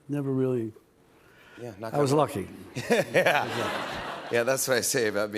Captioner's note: laughs